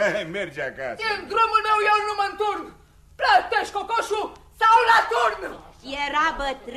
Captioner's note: laughter